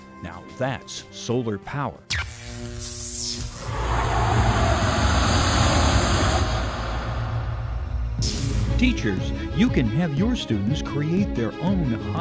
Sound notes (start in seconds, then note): 1.8 sound Effects